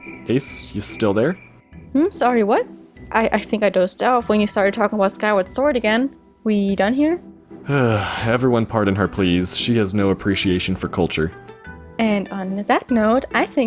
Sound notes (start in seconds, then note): 7.6 sigh